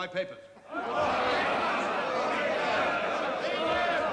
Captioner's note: shouting again